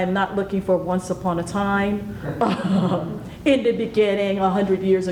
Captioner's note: laughs